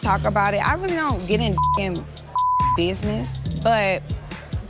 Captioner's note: beep